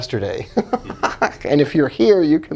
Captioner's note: laughing